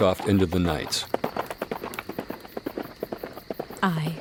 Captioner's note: horse gallops away